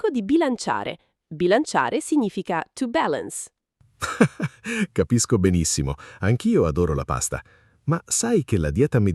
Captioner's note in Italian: risate